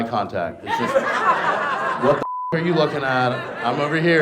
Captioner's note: beep